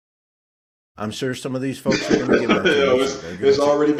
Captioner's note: laughing